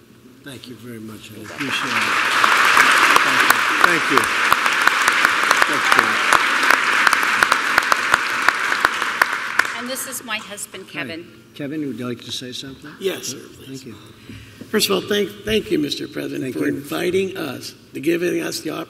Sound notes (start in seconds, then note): 1.4 applause